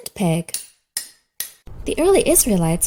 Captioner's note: hammer taps